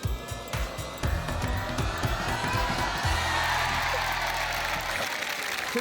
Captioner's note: cheering, applause